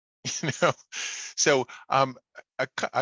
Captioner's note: laughing